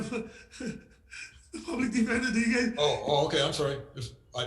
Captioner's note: laughing